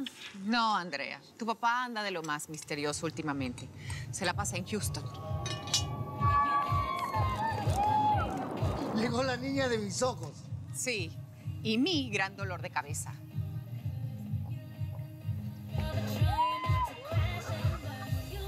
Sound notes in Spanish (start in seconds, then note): 5.3 gritos y exclamaciones; 14.1 gritos de alegría